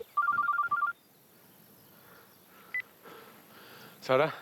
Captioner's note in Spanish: la otra línea timbra; suena el celular